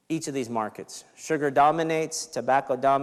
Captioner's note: none